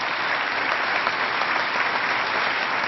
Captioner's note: applause